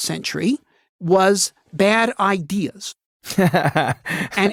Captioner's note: laughing